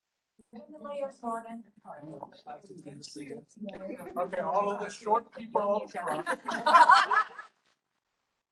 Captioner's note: chatter